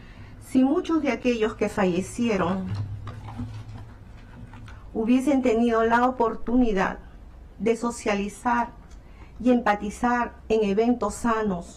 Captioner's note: speaking spanish